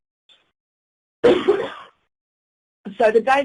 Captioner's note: coughing